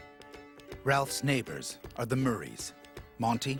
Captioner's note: voiceover